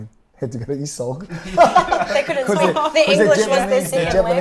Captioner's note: laughs